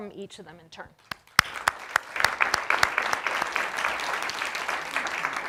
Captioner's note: audience clapping